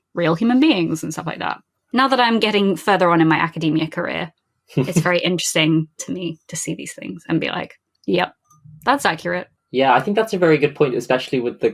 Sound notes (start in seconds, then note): 4.8 laughs